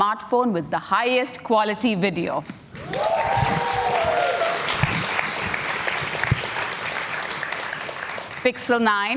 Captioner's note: cheers and Applause